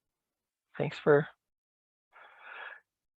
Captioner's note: sighs heavily